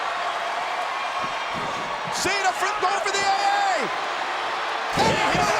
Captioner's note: crowd cheering; body thudding